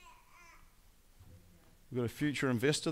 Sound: baby babbling

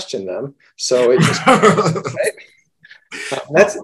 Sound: laughs

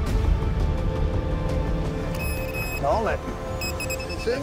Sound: beeping

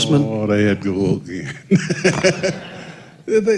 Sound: laughter

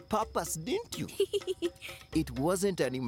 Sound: giggles

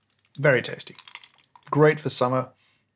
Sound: ice cubes clinking

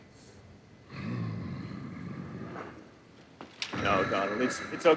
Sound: Donald growls

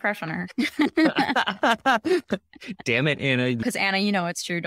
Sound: laughter

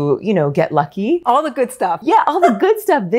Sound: chuckles

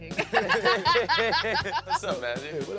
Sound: laughs

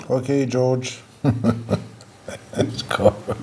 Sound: laughing

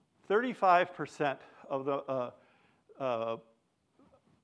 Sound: none

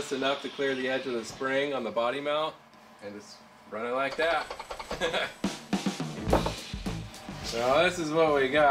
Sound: laughs

